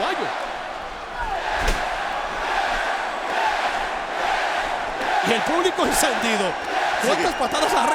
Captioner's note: applause